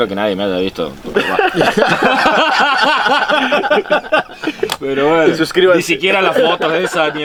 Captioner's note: laughs